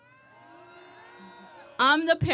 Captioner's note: audience cheering